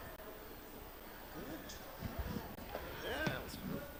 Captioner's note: crowd chattering